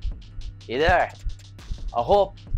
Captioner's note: foreign language